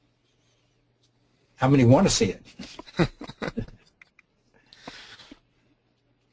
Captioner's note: laughter